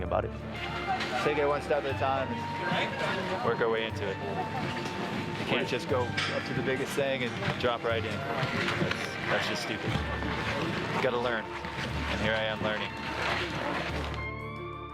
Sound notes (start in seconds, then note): none